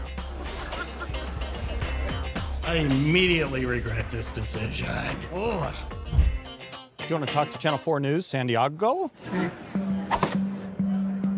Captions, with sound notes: (funky music) I immediately regret this decision. (funky music) Do you want to talk to Channel 4 News San Di-ah-go? (crowd chatter) (board thwack)